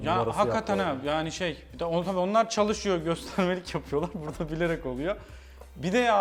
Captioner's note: laugh